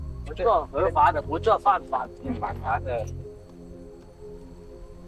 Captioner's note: speaking in foreign language; dramatic music